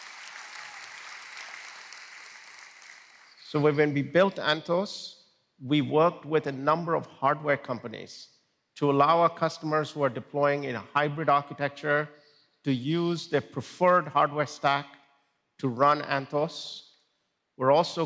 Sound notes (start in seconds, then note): 3.9 applause